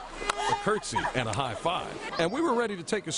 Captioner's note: laughter